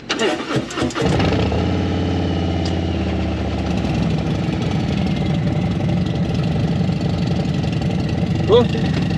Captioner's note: engine revving